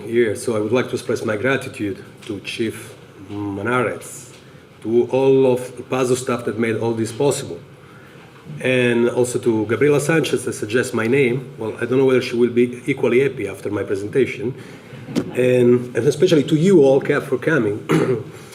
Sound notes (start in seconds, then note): 14.9 audience laughter